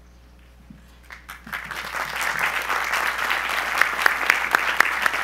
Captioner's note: audience applause